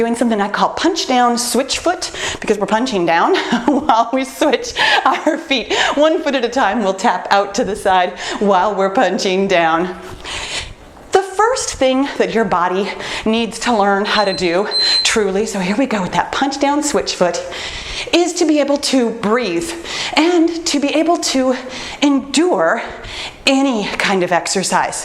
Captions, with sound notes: we're doing something I call punch down switch foot, because we're punching down while we switch our feet (laughs), one foot at a time, we'll tap out to the side while we're punching down. The first thing that your body needs to learn (timer beeps) how to do, truly, so here we go with that punch down switch foot, is to be able to breathe and to be able to endure any kind of exercise.